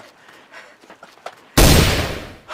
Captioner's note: gun Shot